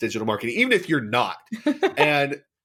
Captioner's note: laughs